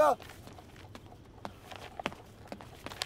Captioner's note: Footsteps